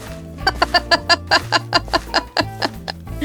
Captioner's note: laughter